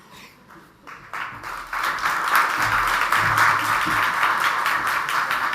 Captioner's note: audience applauds